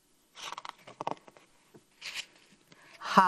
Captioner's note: paper rustles